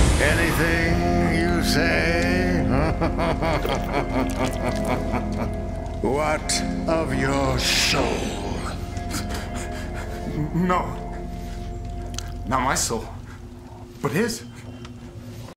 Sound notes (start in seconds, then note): 2.3 laughing; 8.5 panting